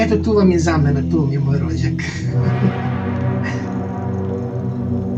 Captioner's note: light laugh